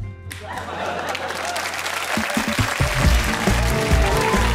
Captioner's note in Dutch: applaus